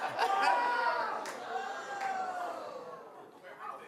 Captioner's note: laughing; yelling